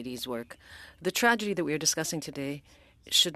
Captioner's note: speaking French